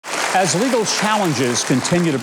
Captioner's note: audience applauding